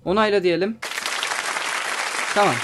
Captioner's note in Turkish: alkış sesleri